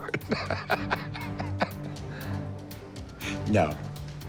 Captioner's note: laughs